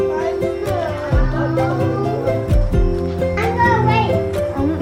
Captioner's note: kids talking